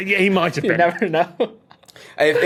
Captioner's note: laughs